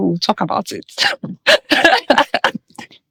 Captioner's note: laughing